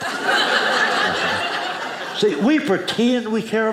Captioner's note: audience laughing